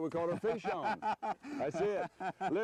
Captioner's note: laughter